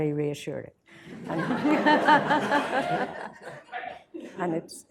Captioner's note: laughter